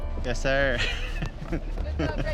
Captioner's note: laughter